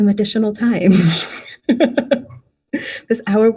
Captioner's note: laughing